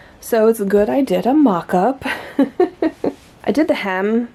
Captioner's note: laughs